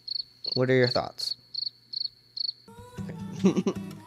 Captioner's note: crickets; crickets continue